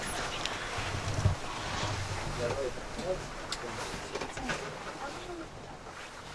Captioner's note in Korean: 일출 산행을 준비하는 소리가 선명하게 들린다